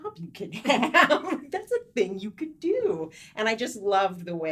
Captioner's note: light laughing